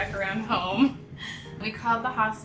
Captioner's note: laughing